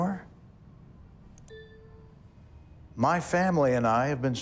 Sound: slide chimes

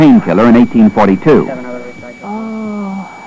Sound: moaning

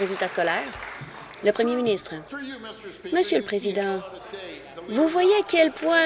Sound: applause

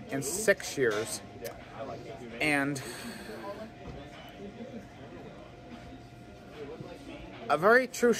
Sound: Students chattering at Purdue Fort Wayne's Walb Student Union

